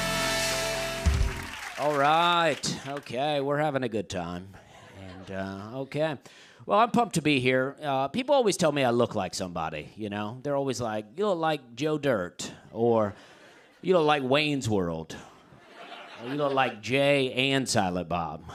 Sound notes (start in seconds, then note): 0.0 cheers and applause; 15.5 laughter